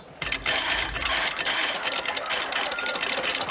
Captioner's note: grinding